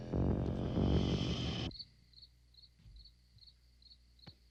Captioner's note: insects chirping